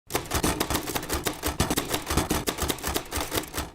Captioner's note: typing